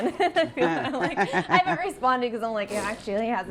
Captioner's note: people laughing